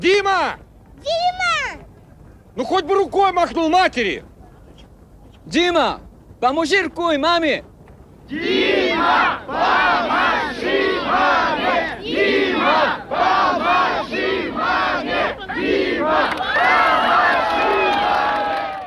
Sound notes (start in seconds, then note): 8.2 chanting